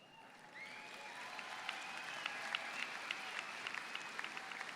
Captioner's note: audience cheers